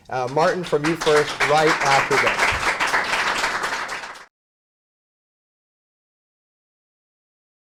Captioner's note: applause